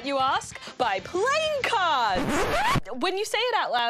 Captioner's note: record scratch